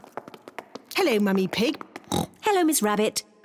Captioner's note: oinks